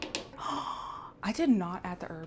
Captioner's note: gasp